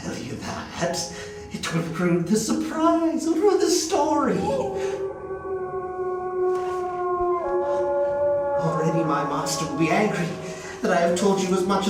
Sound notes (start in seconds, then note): 3.9 wolf howls